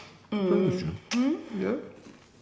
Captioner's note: kissing